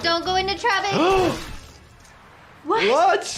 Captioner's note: gasps